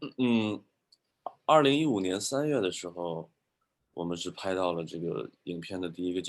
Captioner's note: speaking in foreign language